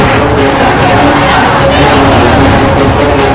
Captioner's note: loud cheers